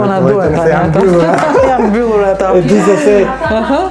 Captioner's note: laughs